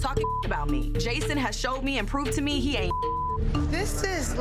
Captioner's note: beep